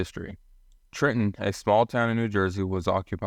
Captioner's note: voiceover